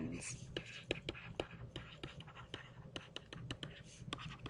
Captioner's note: stylus writing